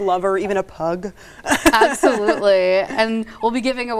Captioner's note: laughing